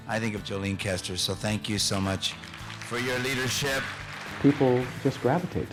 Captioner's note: applause